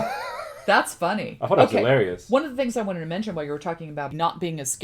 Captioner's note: laughs